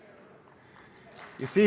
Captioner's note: applause